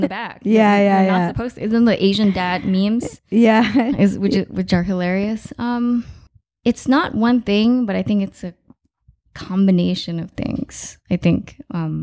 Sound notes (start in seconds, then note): 4.1 laughing